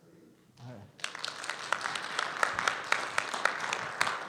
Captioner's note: audience applauding